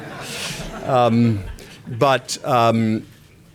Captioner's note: laughter